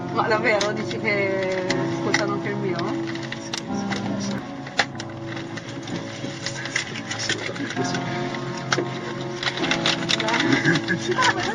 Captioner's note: laughing